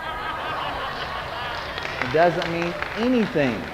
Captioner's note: congregation applauding